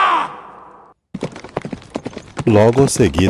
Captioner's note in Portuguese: grito